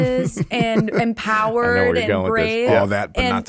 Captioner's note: laughs